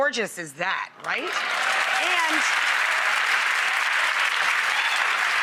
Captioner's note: crowd cheering